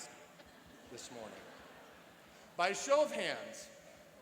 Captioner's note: laughing